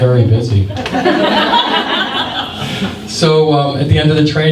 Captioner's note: laughter